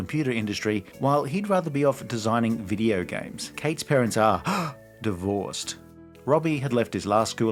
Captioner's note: gasp